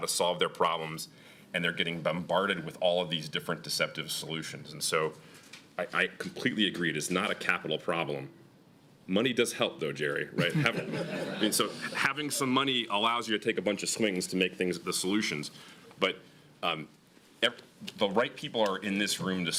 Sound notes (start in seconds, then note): 10.3 laughter